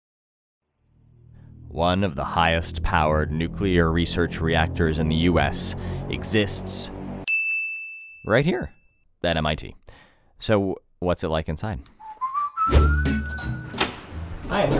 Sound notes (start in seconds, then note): 7.2 ding; 12.0 whistling; 13.4 door opening